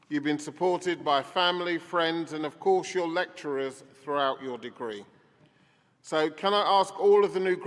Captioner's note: none